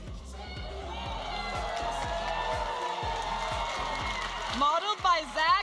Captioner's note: audience applauding and cheering